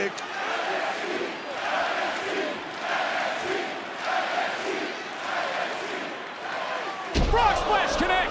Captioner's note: crowd chants "nxt"